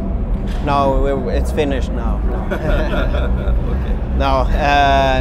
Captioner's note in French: rires